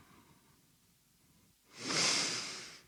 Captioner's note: the sharpest fucking inhale you ever did hear